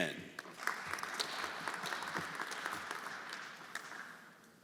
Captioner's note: everyone applauding